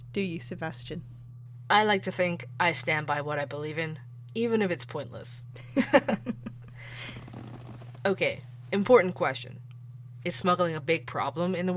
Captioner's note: both laugh